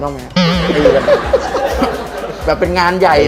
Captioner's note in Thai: เสียงหัวเราะ